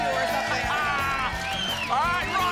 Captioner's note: laughs